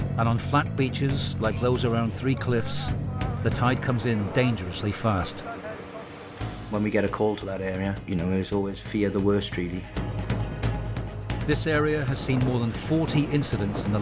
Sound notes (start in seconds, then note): 5.4 crew chattering; 10.1 intense music